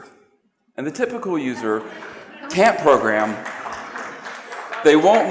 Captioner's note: applause